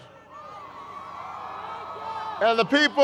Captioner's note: crowd cheers